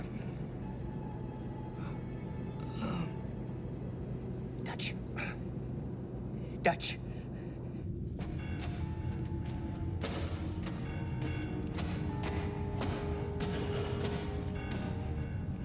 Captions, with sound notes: I'M... DUTCH. DUTCH. [BANGING]